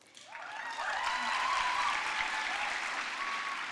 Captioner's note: applause